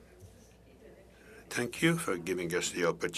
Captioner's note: speaking French